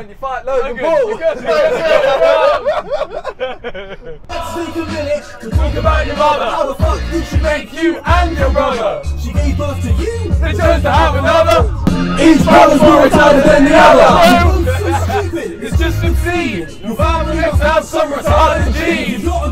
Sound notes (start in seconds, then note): 1.1 laughing